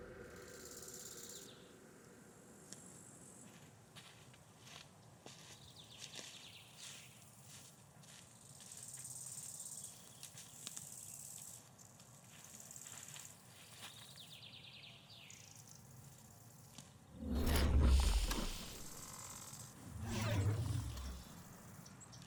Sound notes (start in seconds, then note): 0.2 birds and cicadas chirp; 17.2 digital whoosh; 19.5 another digital whoosh